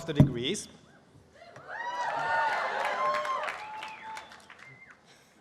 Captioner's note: cheering